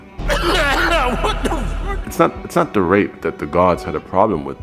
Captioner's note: coughing